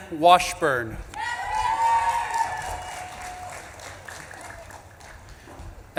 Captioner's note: audience claps and cheers